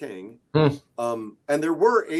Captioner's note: grunts